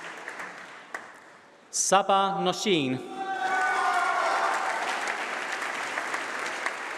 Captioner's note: applause